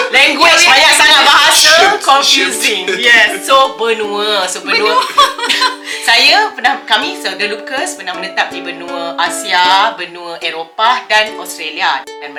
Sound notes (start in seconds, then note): 4.7 laugh